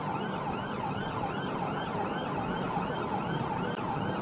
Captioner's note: police car siren